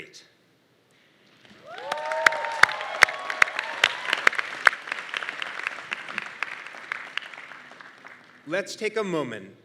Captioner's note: applause